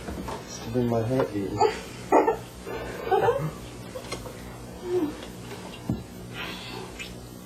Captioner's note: laugh